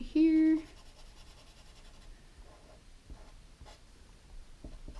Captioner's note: pen scratching